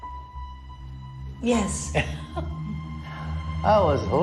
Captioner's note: chuckles